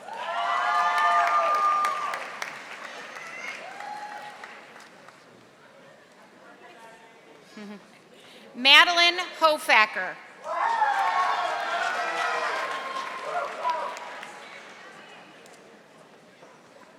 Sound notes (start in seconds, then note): 0.0 audience applauding; 10.5 audience applauding